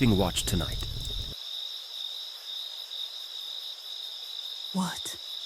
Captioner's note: crickets chirping